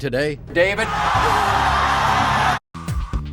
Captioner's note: audience yelling